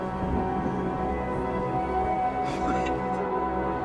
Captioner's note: laughs